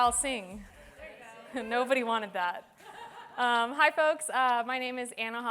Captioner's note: laughter